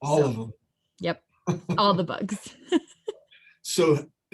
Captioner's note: laughs